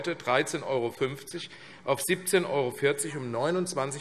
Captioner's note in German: none